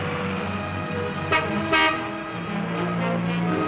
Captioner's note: car honking